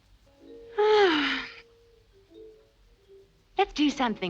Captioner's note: Brigitte sighs